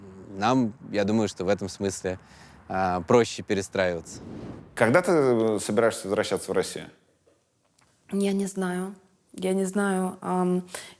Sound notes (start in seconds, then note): none